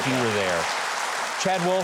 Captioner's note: audience clapping